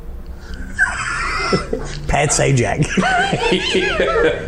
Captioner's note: laughing